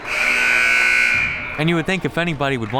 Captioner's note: buzzer